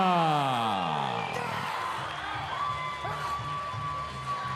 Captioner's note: yells; audience cheering